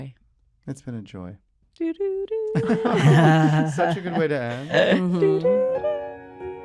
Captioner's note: hannah vocalizes tune from "hacks" soundtrack